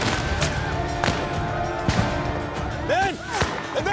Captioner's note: gunfire